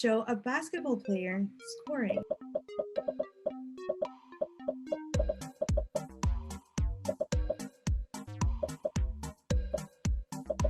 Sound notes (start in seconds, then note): 2.4 popping; 2.4 upbeat music